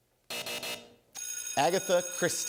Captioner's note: buzzer; bell rings